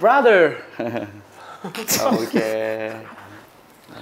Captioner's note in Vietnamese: Cười